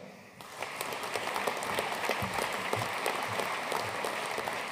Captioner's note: audience applauding